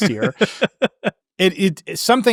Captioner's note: laughing